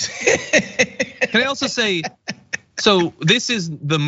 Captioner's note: laugh